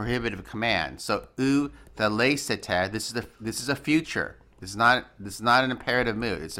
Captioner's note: speaking greek